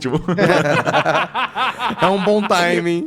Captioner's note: laughs